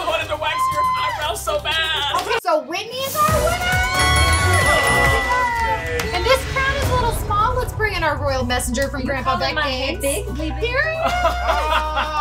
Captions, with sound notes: - Oh, I wanted to wax your eyebrows so bad! - Okay, so Whitney is our winner! (triumphant fanfare) (dinging) And this crown is a little small, let's bring in our royal messenger from Grandpa Beck Games. - Are you calling my head big, lady? - Here he is! (laughing)